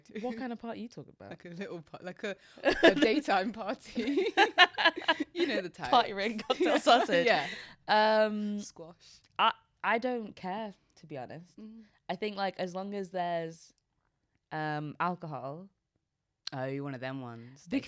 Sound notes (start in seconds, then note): 4.3 both laughing